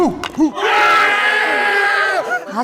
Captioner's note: the friends cheer